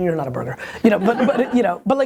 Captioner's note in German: Lacht